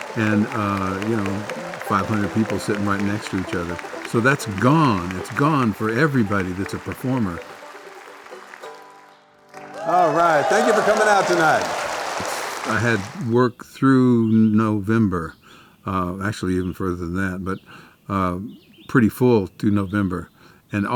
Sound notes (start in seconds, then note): 9.5 cheering; 12.0 applause